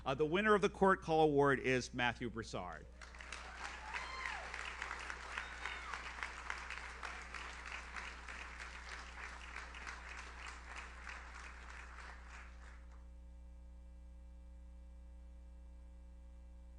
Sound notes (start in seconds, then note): 3.1 audience cheers; 5.7 audience applauds